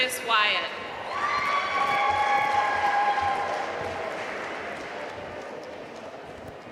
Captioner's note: audience cheering and applauding